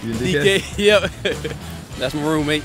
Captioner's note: chuckles